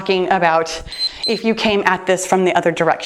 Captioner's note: timer beeps